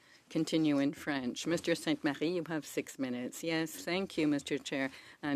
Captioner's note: speaking French